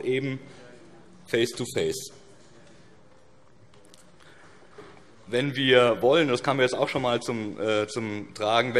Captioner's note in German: none